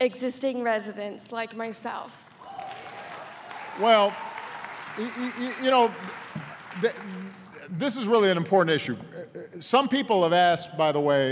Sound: applause

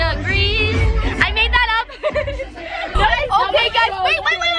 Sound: laughing; girls chattering

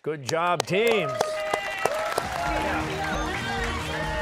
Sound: cheers and applause

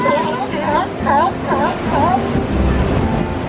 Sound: seal barking

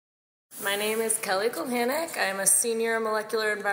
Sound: voiceover

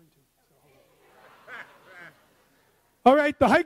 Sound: audience laughs

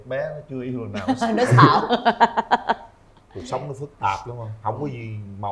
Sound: laughter

